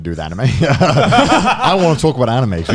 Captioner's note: laughing